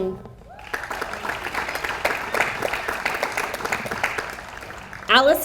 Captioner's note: audience applauds